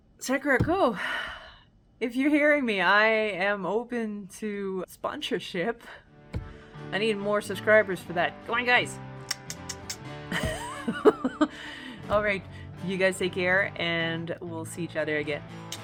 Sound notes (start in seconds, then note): 9.2 click click click click; 10.3 laugh